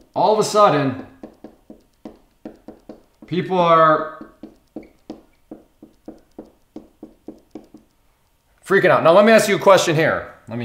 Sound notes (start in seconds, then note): 0.0 marker tapping